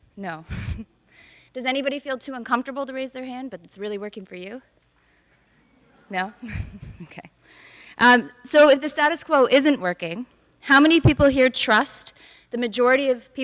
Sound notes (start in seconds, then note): 0.5 woman giggles; 6.4 woman giggles